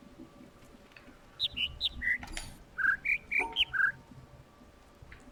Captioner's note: overlapping birds chirping, ˥ ˧ ˥ ˩